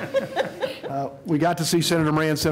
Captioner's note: laughter